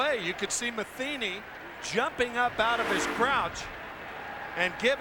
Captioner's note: cheers and applause